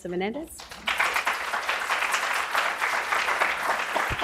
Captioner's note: applause